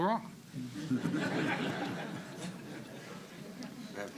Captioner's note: laughter